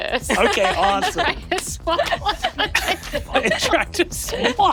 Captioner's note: laughing